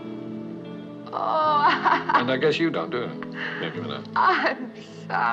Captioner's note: laughs